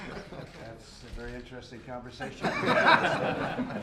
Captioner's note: laughter